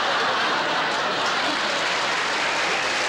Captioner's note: laughter; applause